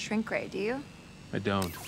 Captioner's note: sword whirs